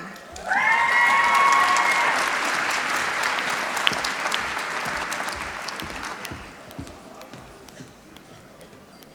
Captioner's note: applause